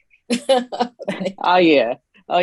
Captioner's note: laughs